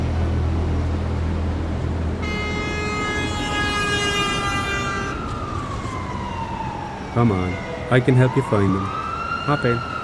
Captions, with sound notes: (horn honking) Come on, I can help you find them. Hop in.